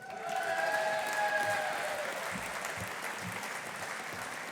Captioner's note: audience applauding